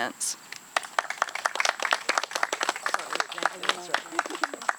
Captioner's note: audience clapping